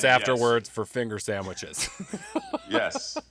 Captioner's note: laughs